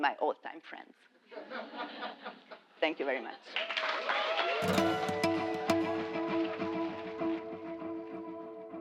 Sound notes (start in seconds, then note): 1.4 laugh; 3.4 applause